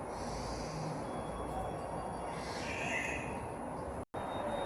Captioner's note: chime